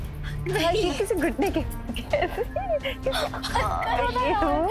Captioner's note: giggling